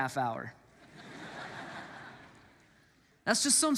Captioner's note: congregants laugh